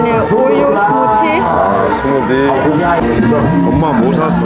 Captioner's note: laughing